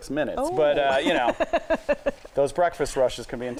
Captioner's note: laughing